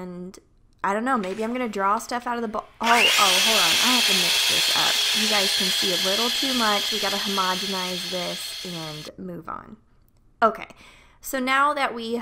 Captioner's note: loud whisk sounds